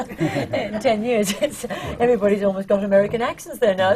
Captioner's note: laughter